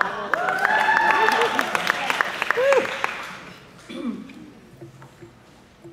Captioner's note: applause